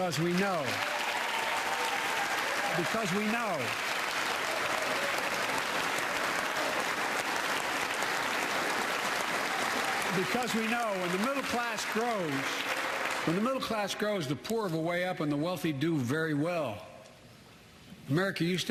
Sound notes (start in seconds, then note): 3.9 applause